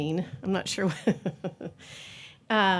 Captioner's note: chuckling